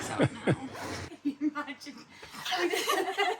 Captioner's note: laughter